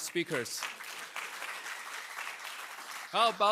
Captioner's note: applause